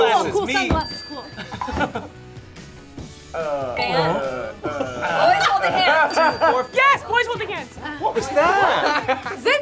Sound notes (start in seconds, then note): 0.4 bell dings; 5.2 bell dings